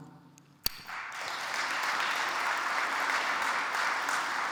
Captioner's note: audience applauds